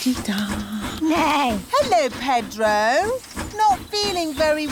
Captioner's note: neighs